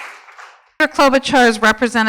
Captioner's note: applause